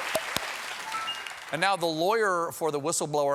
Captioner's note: applause; piano riff